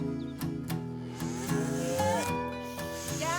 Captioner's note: moos